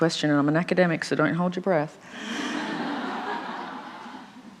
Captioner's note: laughter